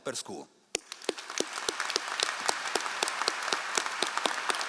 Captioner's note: all applauding